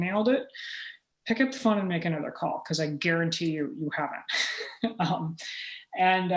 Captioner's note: chuckle